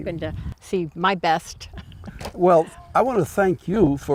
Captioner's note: laughs